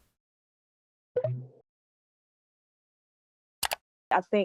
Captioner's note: button blipping